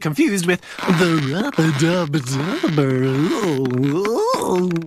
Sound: sus noises

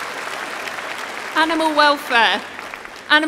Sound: applause

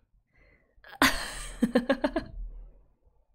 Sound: laughs

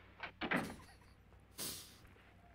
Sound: chuckles

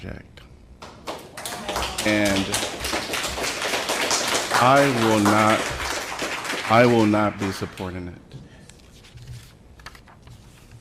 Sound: applause

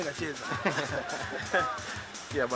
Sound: laughs

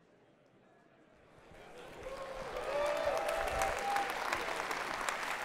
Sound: audience clapping and cheering

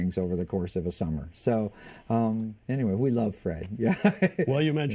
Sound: laughter

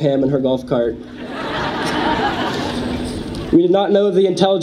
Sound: audience laughs

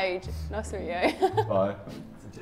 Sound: chuckles

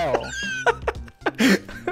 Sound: laughing

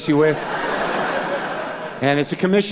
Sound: laughter

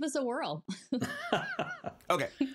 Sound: laughs

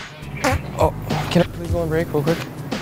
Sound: fart noise

